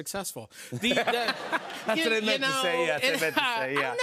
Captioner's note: laughter